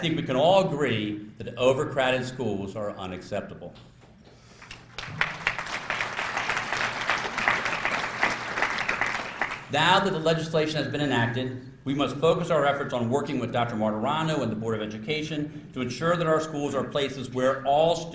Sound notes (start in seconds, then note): 4.6 applause